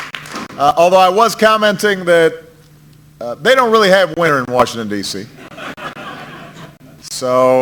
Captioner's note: applause; laughter